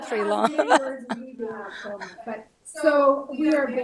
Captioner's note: group laughs; speaks faintly